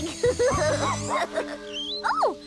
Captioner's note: chuckling; Scruffty Barking